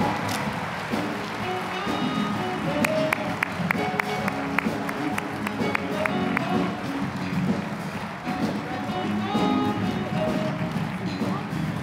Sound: applause, cheering; applause; upbeat jazzy music

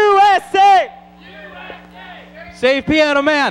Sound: crowd

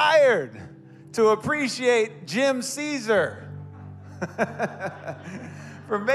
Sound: congregants chuckle

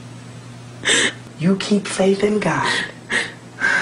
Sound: sobbing

